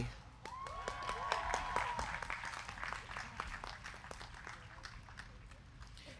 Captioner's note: crowd clapping; crowd cheering